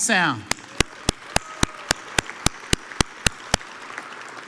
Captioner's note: audience applauds